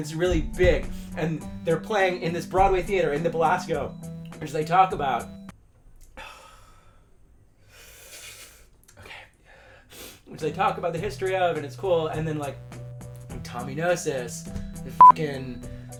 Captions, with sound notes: And it's really big and they're playing in this Broadway theater in the Belasco which they talk about- [breathing] Okay. [sniff] Which they talk about the history of and it's cool and then, like Tommy Gnosis- fucking